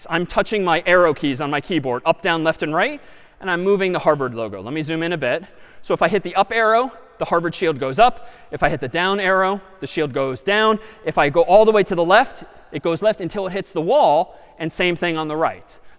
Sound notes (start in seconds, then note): none